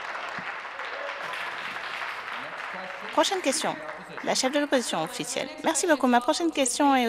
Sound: some Applause

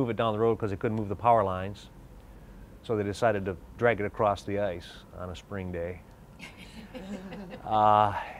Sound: laughs

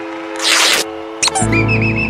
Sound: rips fabric; crowd whistling

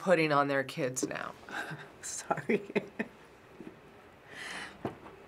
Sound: chuckling

